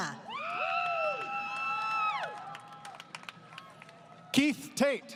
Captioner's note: crowd Cheering